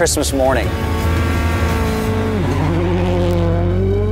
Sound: engine revving

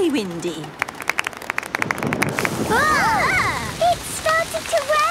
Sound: exclamations; thunder

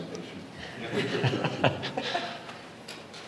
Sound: laughter

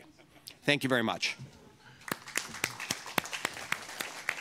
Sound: applause

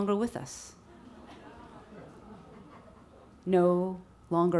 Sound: audience laughs

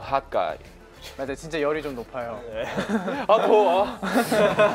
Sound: speaking Korean

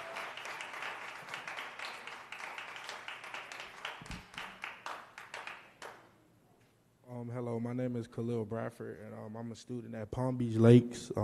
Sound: applause

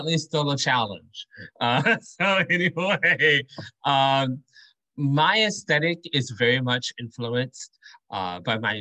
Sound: laughter

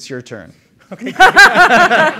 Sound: laughter

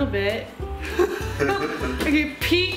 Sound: laughter

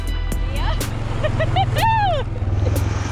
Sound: laughs

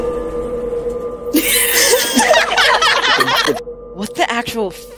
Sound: hysterical laughing from cast ensues

